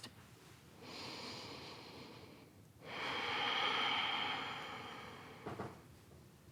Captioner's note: inhales and exhales